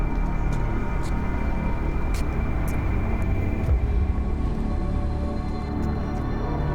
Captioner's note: ominous music; footsteps scrape